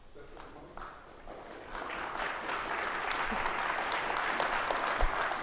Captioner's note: audience applauding